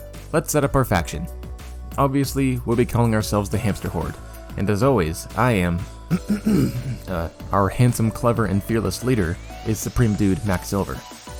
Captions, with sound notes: Let's set up our Faction! Obviously, we'll be calling ourselves The Hamster Horde, and as always, I am [clears throat not-so-subtley] Uh, our handsome, clever, and fearless leader is Supreme Dude, Mack Silver.